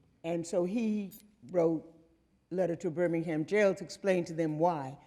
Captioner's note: none